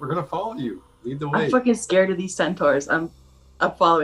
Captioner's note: beep